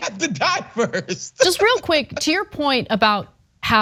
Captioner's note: laugh